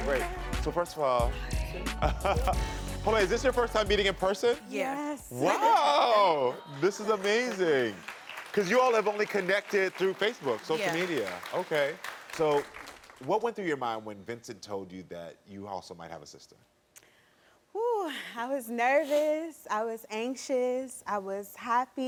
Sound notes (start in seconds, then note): 2.1 Karamo laughs